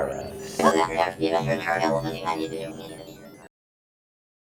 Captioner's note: chatters